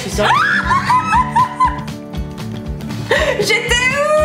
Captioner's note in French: rires